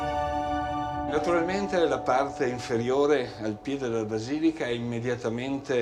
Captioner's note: speaking in foreign language